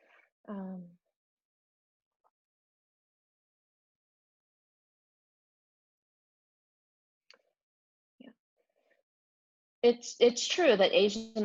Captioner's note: pause